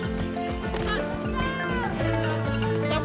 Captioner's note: child shouts; speaks Spanish